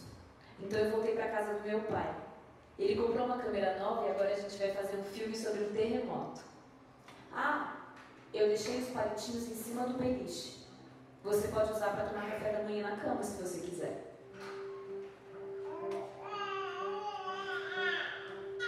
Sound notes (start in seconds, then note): 15.5 baby crying